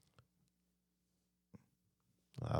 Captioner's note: speaking Spanish